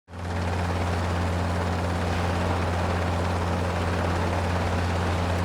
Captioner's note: helicopter whirring